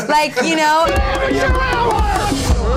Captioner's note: shouting